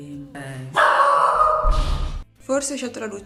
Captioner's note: dog barking